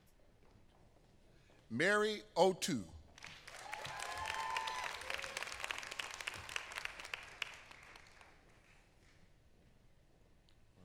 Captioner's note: applause